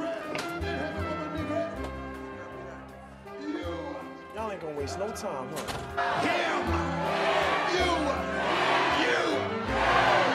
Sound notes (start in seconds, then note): 0.9 door opens; 5.6 door slams